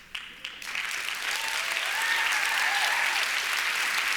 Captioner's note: applause